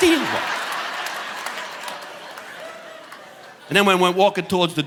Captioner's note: audience laughing